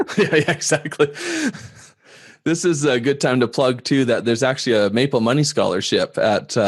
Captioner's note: laughs